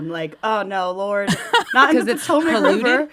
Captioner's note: laughter